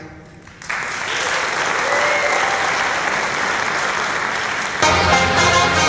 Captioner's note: applause